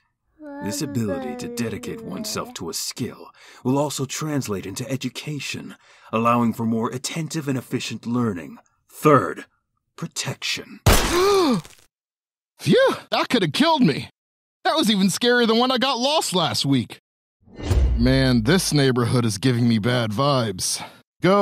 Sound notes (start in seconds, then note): 10.8 Lucas fires gun; 11.5 gasps